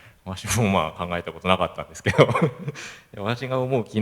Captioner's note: laugh